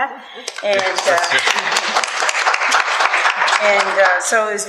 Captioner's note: applause; audience applause